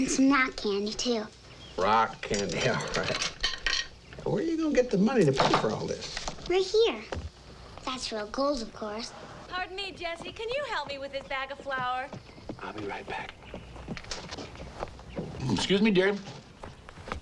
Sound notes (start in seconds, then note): 3.4 candy clatters